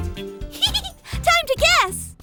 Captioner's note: laughs